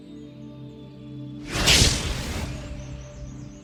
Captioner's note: fire crackling